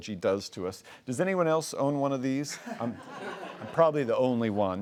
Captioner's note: laughs